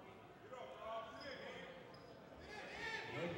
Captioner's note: yelling